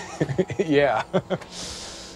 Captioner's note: laughs